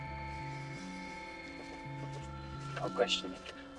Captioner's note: paper wrapper rustling